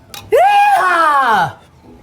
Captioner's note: tossing up glass